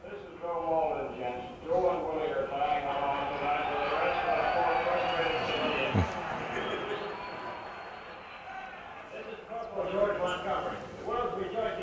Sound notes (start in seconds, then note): 4.3 crowd cheers